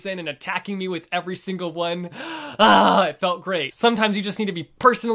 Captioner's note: big dramatic sigh